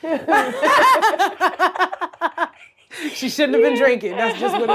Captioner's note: Blac Chyna laughs